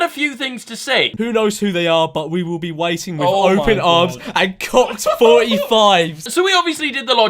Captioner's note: laughs